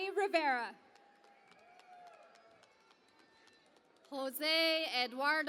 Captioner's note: cheering and Applause